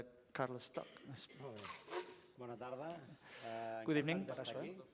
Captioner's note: non-english speech